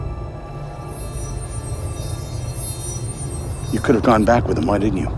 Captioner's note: buzzing